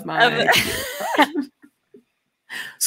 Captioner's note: laughs